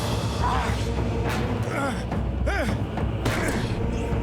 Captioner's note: groaning